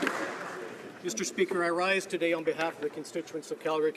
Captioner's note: applause